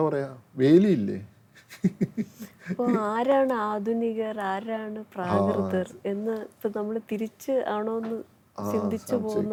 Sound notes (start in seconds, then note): 2.1 laughs